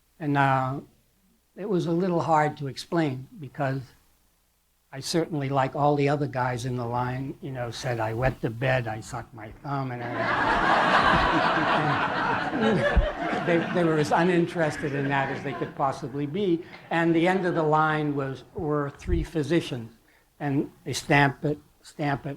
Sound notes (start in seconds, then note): 10.0 laughter